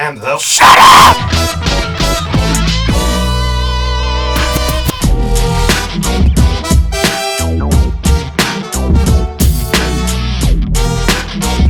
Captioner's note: screaming